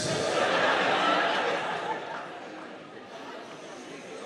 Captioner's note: audience laughing